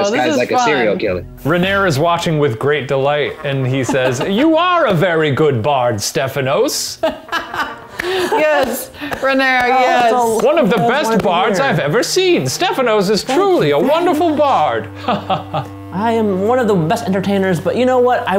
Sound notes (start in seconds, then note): 7.0 laughter; 8.5 clapping